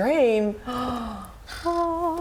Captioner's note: gasps